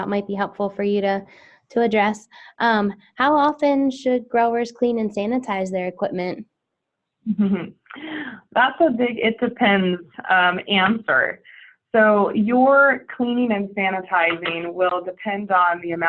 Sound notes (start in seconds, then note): 7.2 person laughs